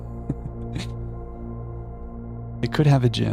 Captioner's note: chuckles